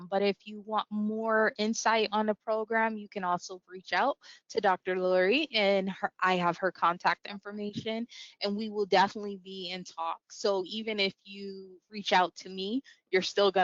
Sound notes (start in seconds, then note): none